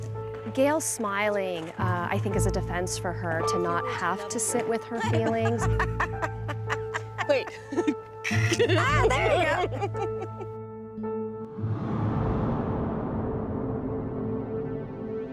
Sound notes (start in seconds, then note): 3.9 laughs